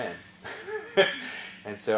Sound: laugh

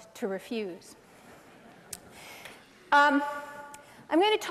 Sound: laughter

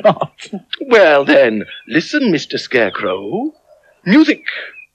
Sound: snaps Fingers

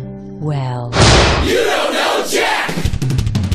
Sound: slam

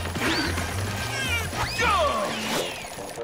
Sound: grunting

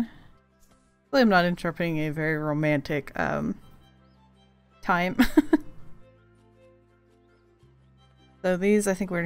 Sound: laughs

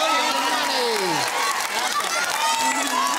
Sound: cheering and applause

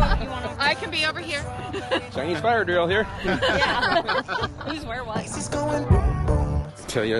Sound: laughing

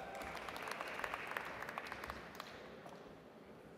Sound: audience applauds

